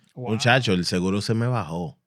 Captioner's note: speaking Spanish